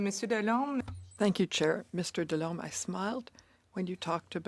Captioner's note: speaking French